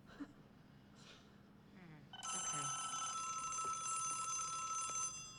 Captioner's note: telephone rings